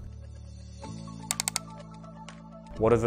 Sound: clicking

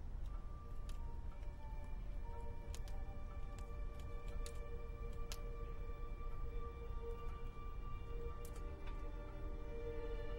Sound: crackling wood fire

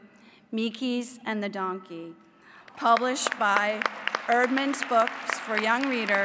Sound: applause

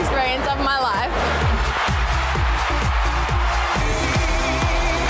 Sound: crowd roars

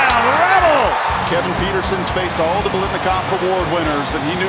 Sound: voiceover

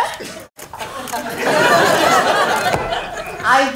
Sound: laughter

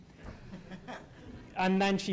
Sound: laughter

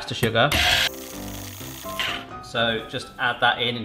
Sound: lively music; mixer whirs

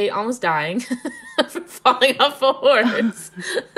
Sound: laughing

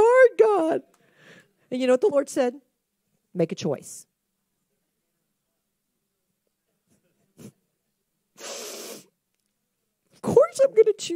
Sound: sniffles loudly

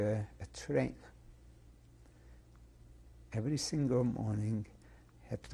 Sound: pauses for 3 seconds

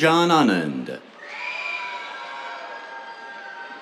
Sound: cheers

